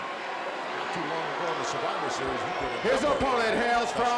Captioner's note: gorilla speaks faintly